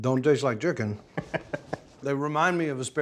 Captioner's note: laughing